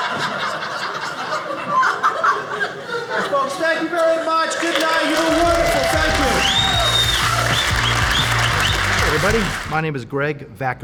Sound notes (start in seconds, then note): 0.0 audience laughing; 6.3 audience cheering